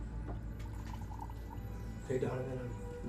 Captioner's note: tea pouring